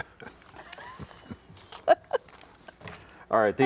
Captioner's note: chuckling